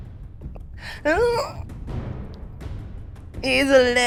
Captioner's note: gasps